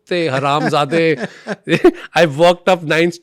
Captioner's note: laughs